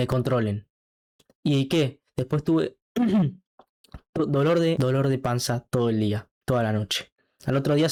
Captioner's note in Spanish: carraspeo